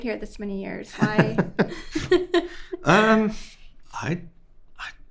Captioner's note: both laughing